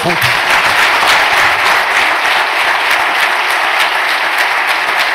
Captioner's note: applause